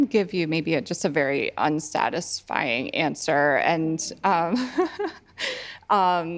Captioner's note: chuckling